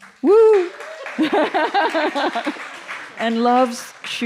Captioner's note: applause and cheering